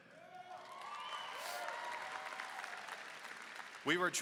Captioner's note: applause and cheering